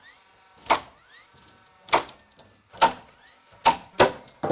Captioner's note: nail gun popping